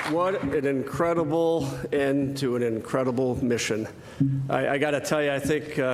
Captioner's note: applause